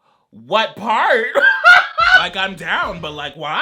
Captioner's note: laughs